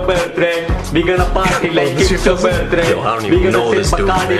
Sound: chatter

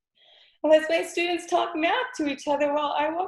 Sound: sobs

